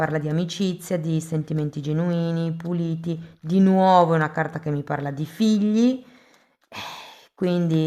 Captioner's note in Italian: sospiri